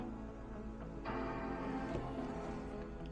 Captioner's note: Macbook startup chime